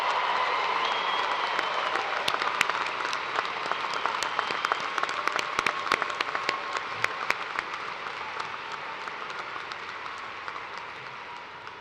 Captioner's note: chee and applause